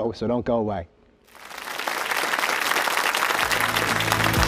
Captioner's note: applause